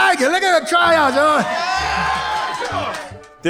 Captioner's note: audience cheering